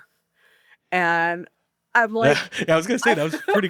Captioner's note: laughs